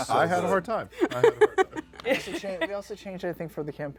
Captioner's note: laughs